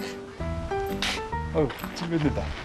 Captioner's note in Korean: 퉤!